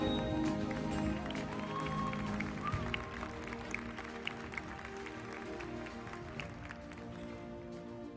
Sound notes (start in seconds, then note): 0.4 audience applauding; 0.6 audience cheering; 4.1 uplifting music continues